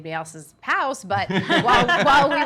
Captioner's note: laughing